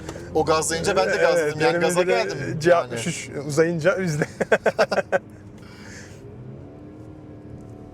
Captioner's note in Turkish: kahkaha